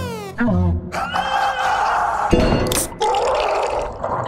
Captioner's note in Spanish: ruido de gritos y ahogos